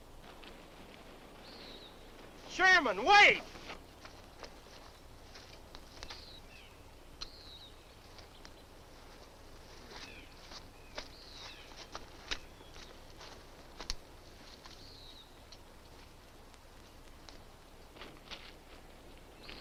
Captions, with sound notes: - Sherman, wait! (distant birds chirp)